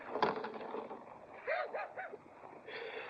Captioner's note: Mere chuckles